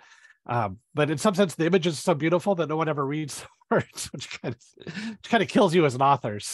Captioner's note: laughs